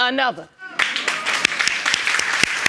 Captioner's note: applause